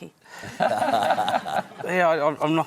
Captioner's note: laughter